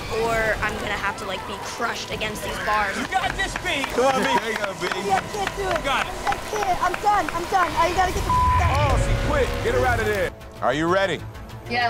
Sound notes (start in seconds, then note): 2.7 hands clapping; 2.8 screaming